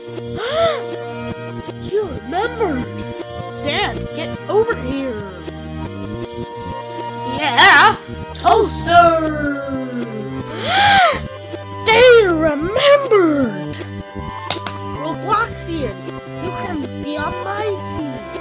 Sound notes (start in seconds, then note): 0.3 gasps; 9.1 gasps; 14.4 clap clap